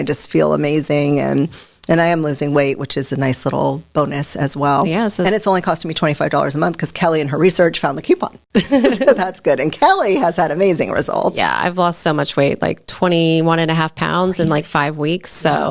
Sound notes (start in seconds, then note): 8.6 laughs